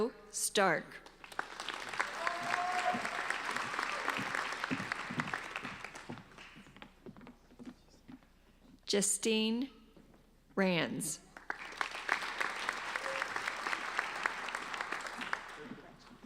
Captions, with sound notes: Margo Stark. (applauding) Jestine Rands. (applauding)